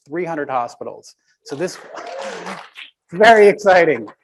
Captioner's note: audience applaud